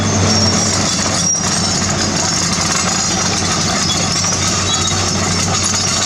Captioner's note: engine Rev